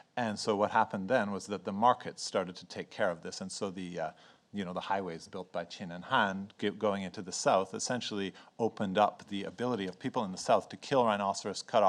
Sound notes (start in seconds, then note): 5.7 speaks in foreign language